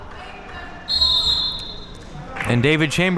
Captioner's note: whistle being blown